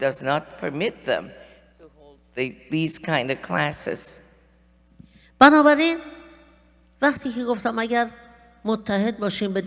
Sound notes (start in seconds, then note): 5.3 speaking persian